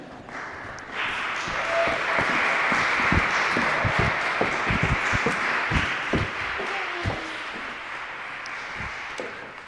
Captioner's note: applause